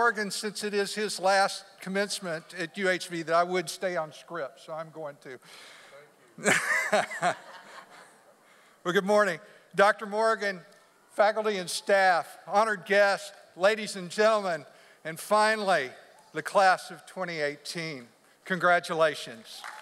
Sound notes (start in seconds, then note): 6.4 laughs; 6.4 people laugh